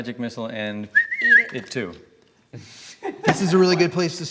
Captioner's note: whistling